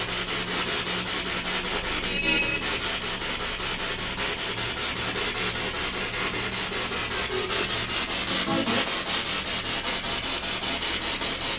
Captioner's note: radio noise from the spirit box